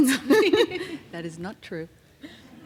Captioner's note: laughing